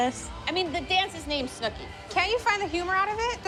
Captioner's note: none